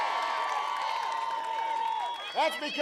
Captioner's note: applause